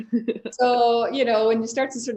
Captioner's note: both chuckle